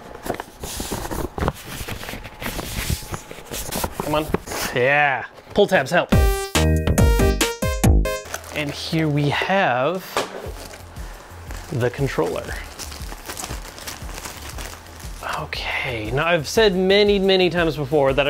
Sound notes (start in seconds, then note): 0.2 rustling; 6.1 upbeat music